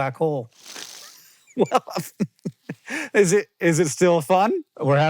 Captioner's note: laughs